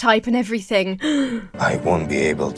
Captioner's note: Emma gasps